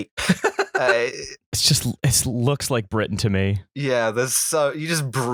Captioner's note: laughter